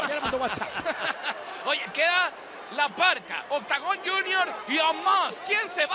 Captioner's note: laugh